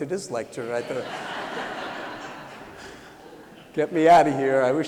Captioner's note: laughter